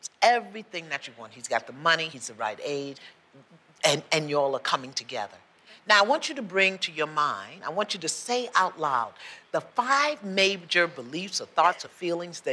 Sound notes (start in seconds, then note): none